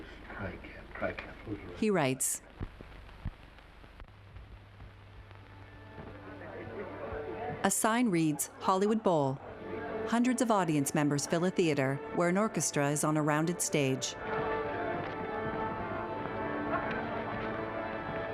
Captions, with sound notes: I can't-- I can't believe I even tried to... [audience chattering indistinctly] [soft orchestra playing]